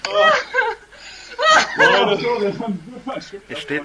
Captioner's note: laughter